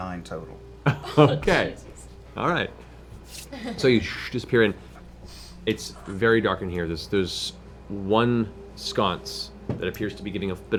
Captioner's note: laughs